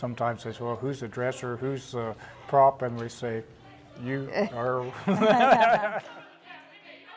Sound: laughing

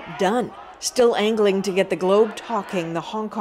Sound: chants

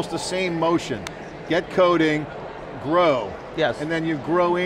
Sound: claps hands together

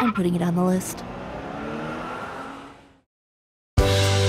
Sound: cars honking in parking lot

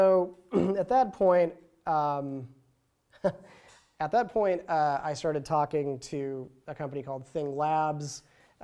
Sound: chuckles

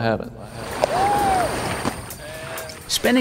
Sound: water lapping on shore

